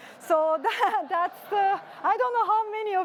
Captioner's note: laughter